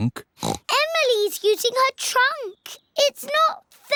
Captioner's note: oinks